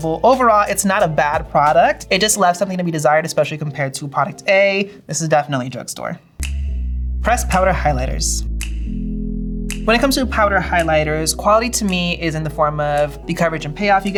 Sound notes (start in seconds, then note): 6.4 finger snap; 6.4 mellow groove music